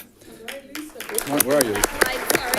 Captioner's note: audience clapping